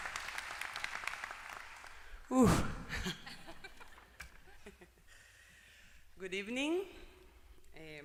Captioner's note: applause; laugh